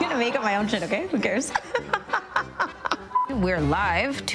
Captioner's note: laughing